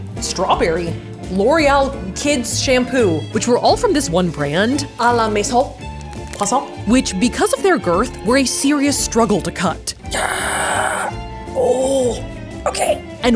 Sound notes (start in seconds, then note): 5.3 speaking in French; 11.5 grunting